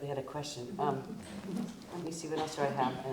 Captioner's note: audience chuckles